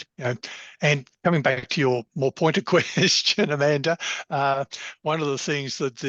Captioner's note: laughs